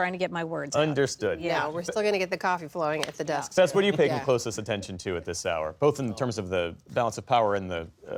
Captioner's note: laughter